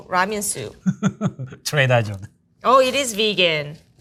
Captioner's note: laughing